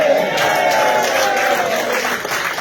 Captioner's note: applause and celebrations